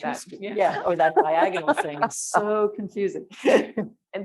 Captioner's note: laughing